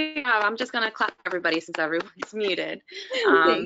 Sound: applauds

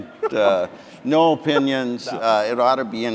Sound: audience chuckling

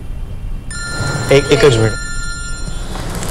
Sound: phone rings

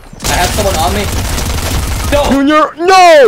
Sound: multiple guns firing

